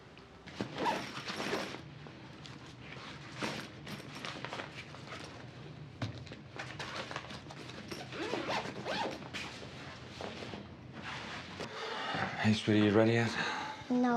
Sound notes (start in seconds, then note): 6.8 zipper closing